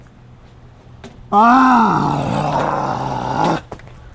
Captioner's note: grunts